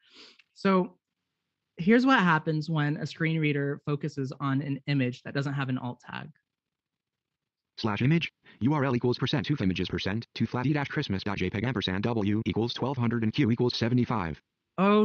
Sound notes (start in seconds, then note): 7.4 computer Generated Voice Rapidly Reads